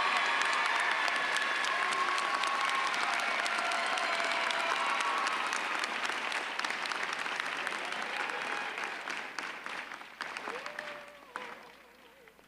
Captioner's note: applause